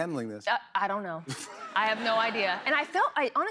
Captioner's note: laughter